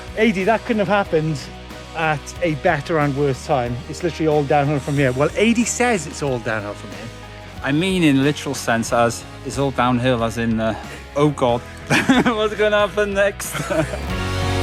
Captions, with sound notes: - A.D., that couldn't have happened at a better and worse time. It's literally all downhill from here. Well, A.D. says it's all downhill from here. - I mean in literal sense as it was all downhill, as in oh, God (chuckling). What's going to happen next? (chuckling)